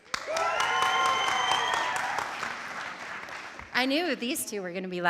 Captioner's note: audience cheering; audience applauding